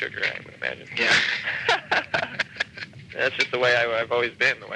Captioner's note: laughing